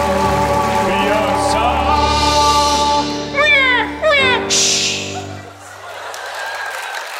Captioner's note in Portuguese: choro; música termina